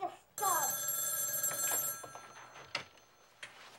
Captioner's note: phone ringing